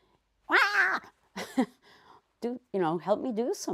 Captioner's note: screams